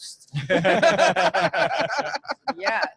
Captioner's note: lauging